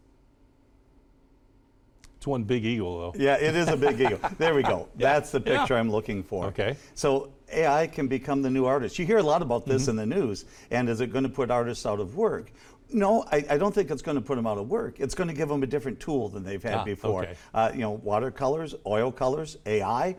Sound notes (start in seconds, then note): 3.5 laughs